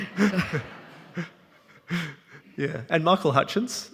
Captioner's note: audience laughing